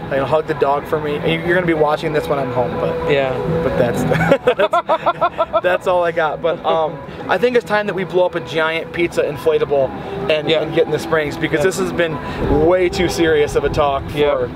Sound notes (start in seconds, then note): 4.0 laughs